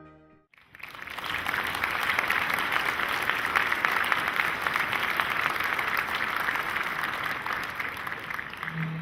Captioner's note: audience applause